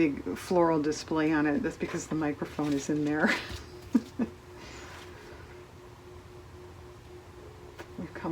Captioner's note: laughs